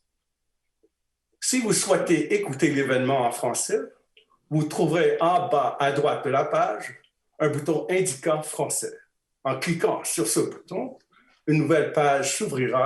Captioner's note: speaking in French